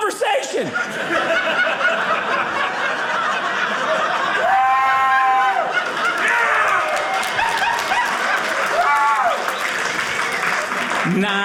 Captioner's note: audience laughing